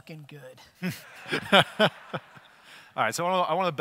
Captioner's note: audience laughter